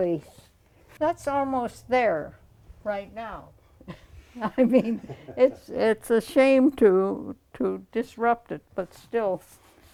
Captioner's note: laughs